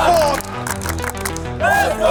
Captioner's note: crowd clapping